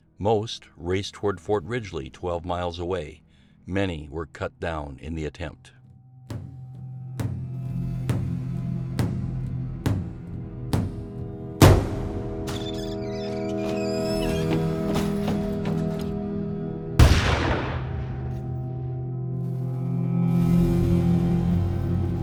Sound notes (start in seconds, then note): 7.1 intense drum music continues; 17.0 gunshot booming; 19.4 ominous music